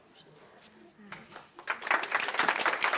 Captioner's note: applause